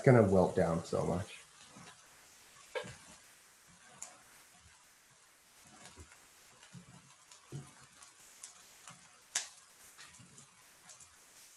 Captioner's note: silence